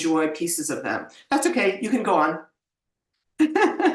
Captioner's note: laughs